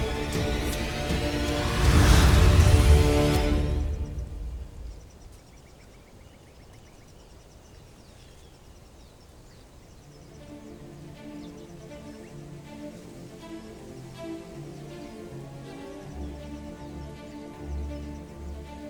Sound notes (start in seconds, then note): 0.0 music swells; 0.7 evil energy whoosh-crackle; 3.1 music fades; 4.6 birds & crickets chirping in distance; 10.4 epic music playing